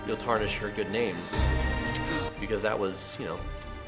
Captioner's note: dramatic music; lips smacking